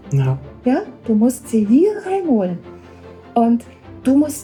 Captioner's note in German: spricht in einer Fremdsprache